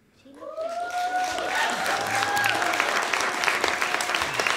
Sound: audience applauding and cheering

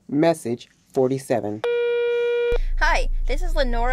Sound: phone tone

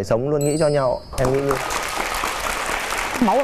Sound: clapping hands

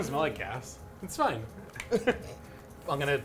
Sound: laughs

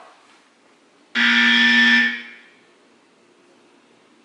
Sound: loud Buzzer

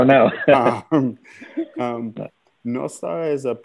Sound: laughter

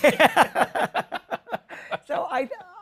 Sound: laughter

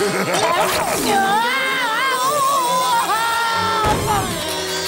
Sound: laughing; screaming

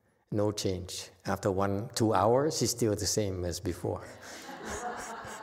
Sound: audience laughs

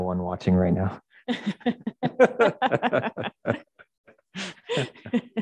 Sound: all laughing

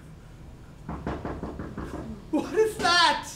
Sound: knocking

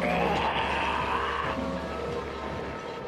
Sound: snarling

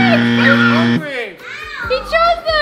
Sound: buzzer buzzing

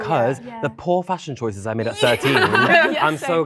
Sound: laughing

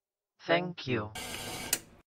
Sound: static, then a click

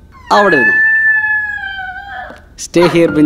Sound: Benji whining

